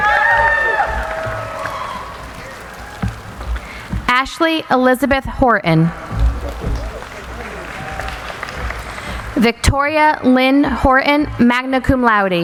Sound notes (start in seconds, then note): 0.0 cheering; 5.9 applauding